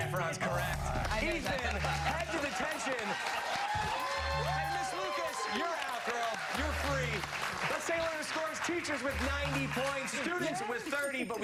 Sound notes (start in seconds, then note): 7.2 cheers and applause